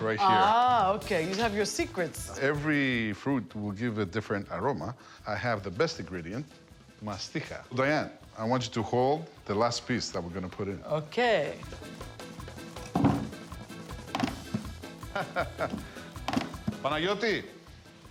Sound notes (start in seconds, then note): 12.9 light thumping